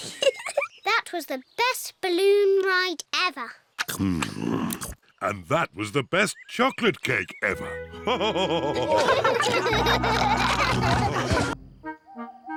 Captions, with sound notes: (GIGGLES) That was the best balloon ride ever! Hmm! And that was the best chocolate cake ever! (ALL LAUGHING)